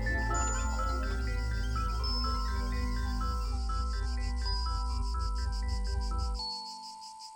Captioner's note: crickets chirping